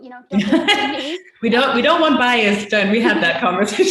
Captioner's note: laughs